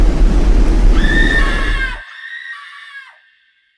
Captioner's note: smoke impact; woman screaming